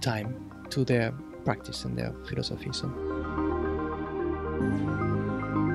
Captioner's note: voiceover